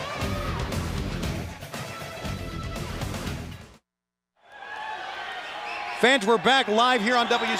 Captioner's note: crowd cheering